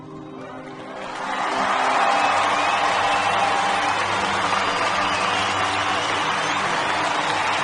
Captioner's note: huge audience response with cheering as music swells